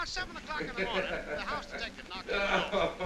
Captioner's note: potter chuckling